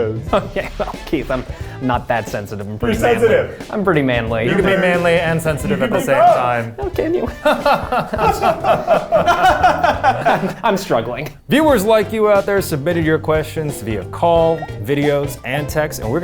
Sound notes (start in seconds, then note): 7.6 laughing